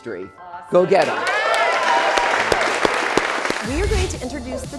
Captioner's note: crowd cheering